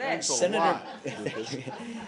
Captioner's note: laughter